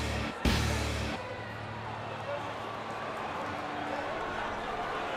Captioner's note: crowd chattering